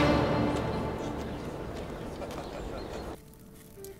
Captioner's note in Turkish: Kuş cıvıltısı sesleri; Ayak sesleri